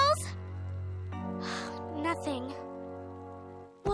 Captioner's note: sighs